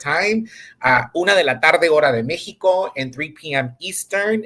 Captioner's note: speaks in Spanish